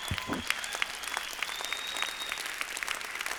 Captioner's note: applause